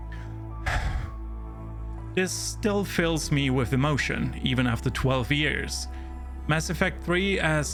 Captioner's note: sighs